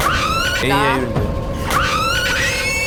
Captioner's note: A "BAM" before he's even done talking